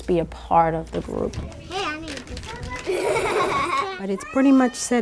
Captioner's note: girls laugh